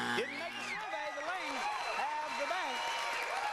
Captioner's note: buzzer; family cheers